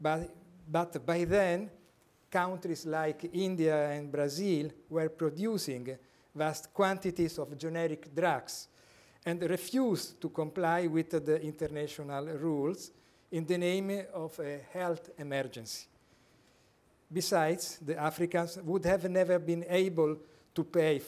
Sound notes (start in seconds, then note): none